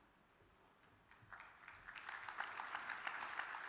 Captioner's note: audience claps